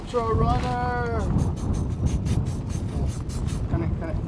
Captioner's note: loud spraying